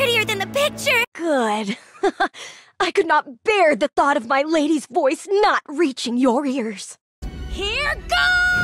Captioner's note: giggle